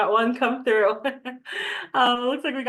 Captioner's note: laughing